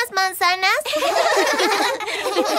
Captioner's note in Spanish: Risas